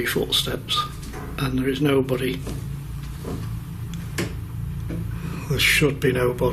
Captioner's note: loud footsteps